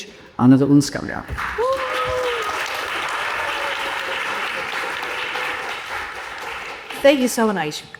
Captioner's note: audience applauding